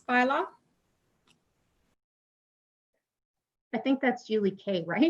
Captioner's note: silence